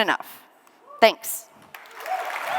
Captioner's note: cheering and applause